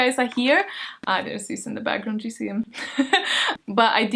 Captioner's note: laughs